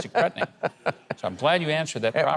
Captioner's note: laughing